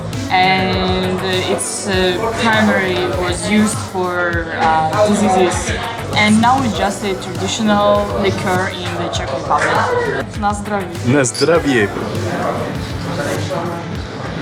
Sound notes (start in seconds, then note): 10.4 speaks in Czech